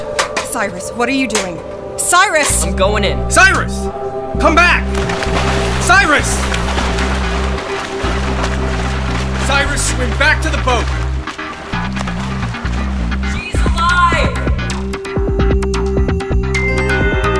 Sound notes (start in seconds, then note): 4.7 splash